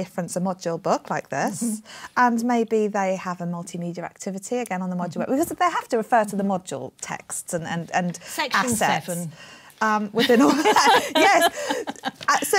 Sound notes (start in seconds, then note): 10.1 laughter